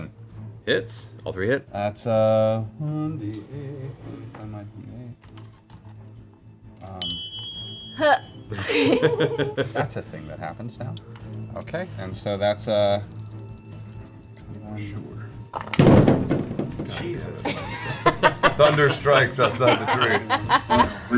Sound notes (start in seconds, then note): 7.3 A dice clings loudly against a glass; 15.7 elbows the set, which makes a loud thump noise